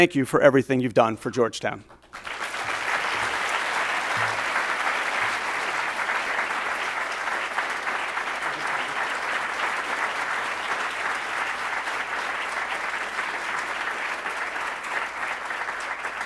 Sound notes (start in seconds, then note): 2.6 audience applauds